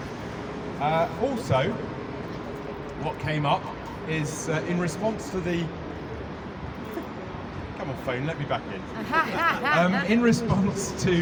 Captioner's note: laughter